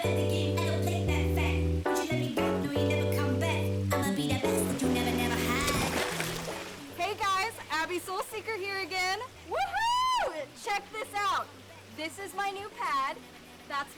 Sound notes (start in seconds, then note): 6.0 water splashes